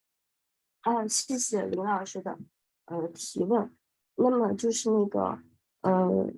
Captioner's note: professor speaking in foreign language